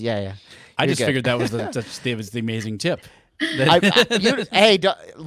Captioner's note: laughing